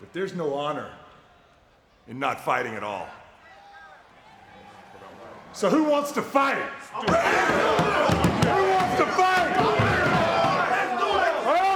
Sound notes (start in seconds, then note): 7.3 group chattering; 10.0 group chattering